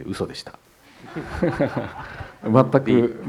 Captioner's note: audience laughter